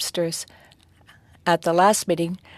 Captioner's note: speaking French